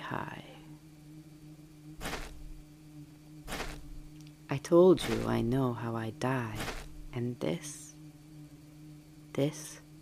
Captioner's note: footsteps